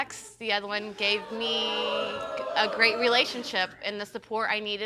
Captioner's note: audience moans